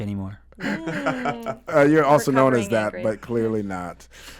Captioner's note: laughs